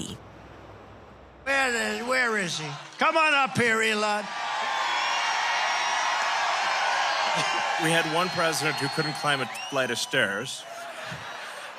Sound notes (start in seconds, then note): 4.2 crowd cheering; 10.6 crowd laughing